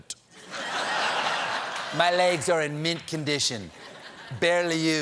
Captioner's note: laughter